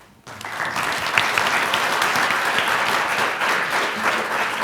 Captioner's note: applause